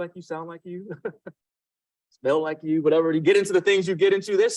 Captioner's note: laughs